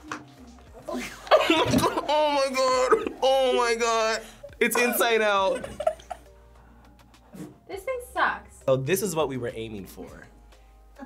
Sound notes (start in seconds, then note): 0.5 laughs